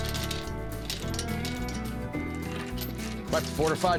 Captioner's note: chain clinks